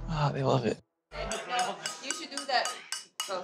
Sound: Mike taps glass with silverware

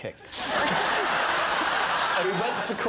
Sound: laughter

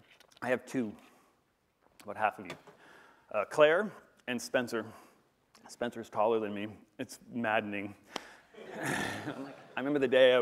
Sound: laughter

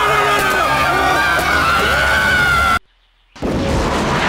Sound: students screaming

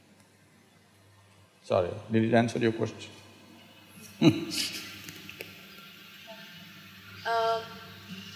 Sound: laughs

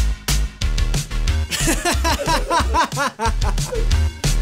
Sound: laughing

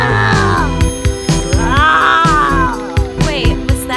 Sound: monster roars

